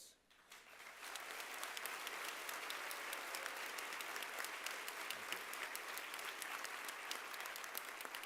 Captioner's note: applause